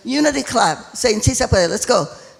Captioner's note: speaking foreign language